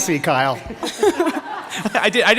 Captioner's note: laughter